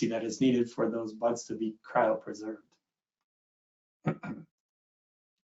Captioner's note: clears throat